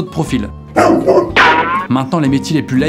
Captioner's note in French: Aboiement